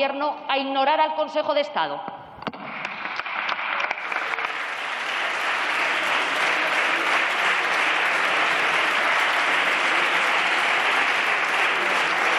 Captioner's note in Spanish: Aplausos